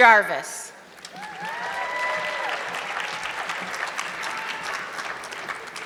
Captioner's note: audience clapping